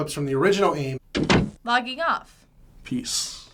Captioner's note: door closing